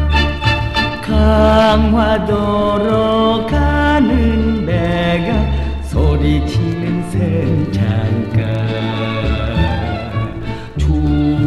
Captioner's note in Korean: 웃으며